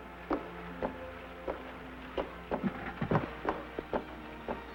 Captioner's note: footsteps